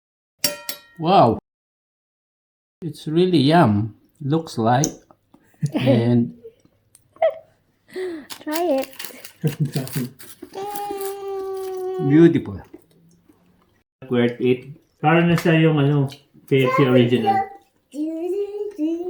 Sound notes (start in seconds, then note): 9.8 laughing